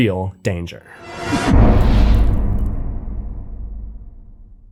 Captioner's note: impact